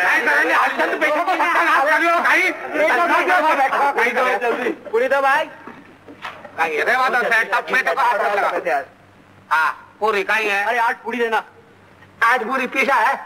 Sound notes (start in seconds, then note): 0.0 people clamoring for food and water; 4.9 the clamor continues